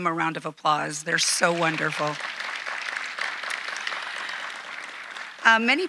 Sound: audience applauding

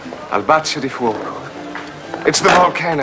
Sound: speaks Italian

